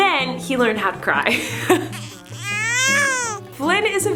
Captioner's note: crying